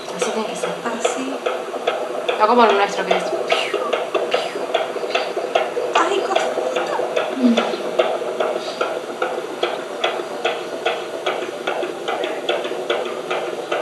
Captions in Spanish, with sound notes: Así tiene que ser. No como el nuestro que es piuf piuf piuf (Latidos de corazón)